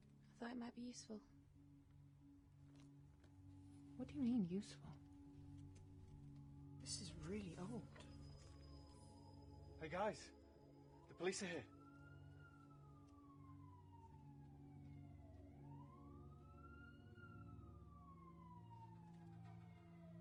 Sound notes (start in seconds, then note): 8.6 distant police sirens blaring